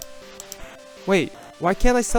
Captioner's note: mouse clicking